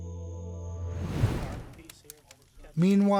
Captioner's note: soft ethereal music; air whooshing